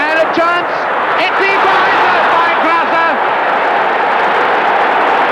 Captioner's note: crowd roaring